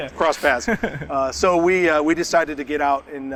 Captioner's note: laughs